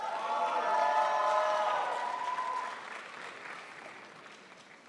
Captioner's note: crowd applauds